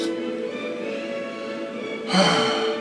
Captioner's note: sigh